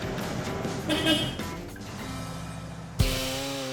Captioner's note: honking